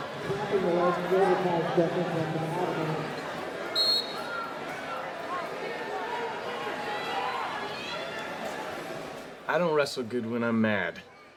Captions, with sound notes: [referee's whistle] - I don't wrestle good when I'm mad.